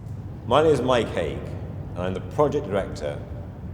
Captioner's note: breeze blowing softly